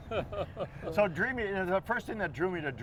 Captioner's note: chuckles